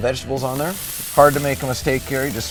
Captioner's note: sizzling